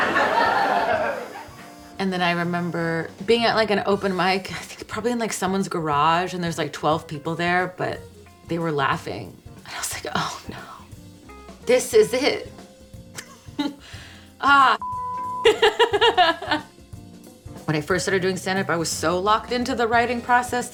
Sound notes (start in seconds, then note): 0.0 audience laughing; 13.1 chuckles; 14.8 beep; 15.5 laughs